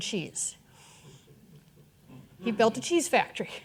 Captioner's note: audience chuckling